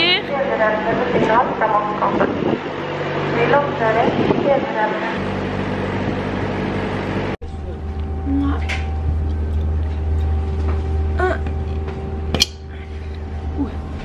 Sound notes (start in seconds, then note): 0.2 woman on the speaker in Norwegian; 5.4 loud noises from the boat; 8.2 Norwegian; 8.9 chews gum